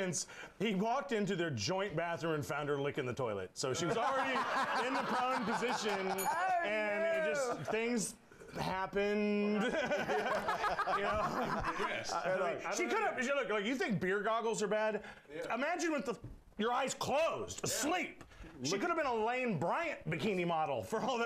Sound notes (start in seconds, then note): 3.8 laughter; 9.5 laughter; 9.6 bell rings